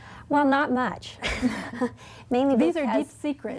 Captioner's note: laughs